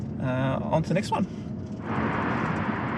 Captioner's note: car Engine Roaring